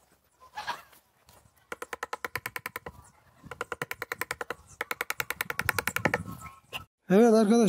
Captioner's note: click, click, click, click, click, click, click, click, click, sound